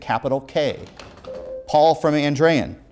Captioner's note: ringing